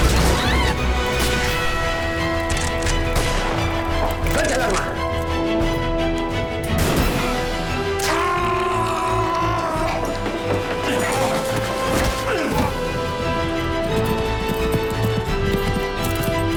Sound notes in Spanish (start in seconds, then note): 0.2 Gritos; 1.7 Disparos; 6.8 Disparo; 8.0 Grito